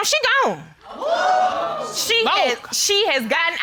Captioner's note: audience exclaiming